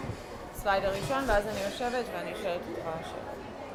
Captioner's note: hebrew